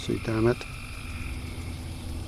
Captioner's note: crickets